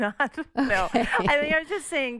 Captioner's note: laughter